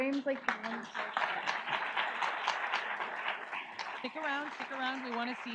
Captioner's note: audience applauds